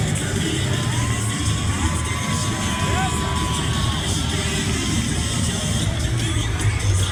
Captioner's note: cheer music continues; audience cheering